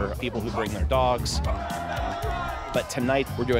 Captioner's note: cheers and applause